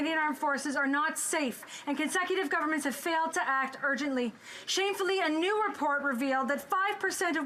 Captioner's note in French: voix de l'interprète